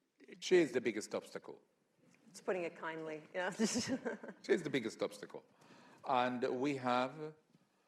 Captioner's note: laughs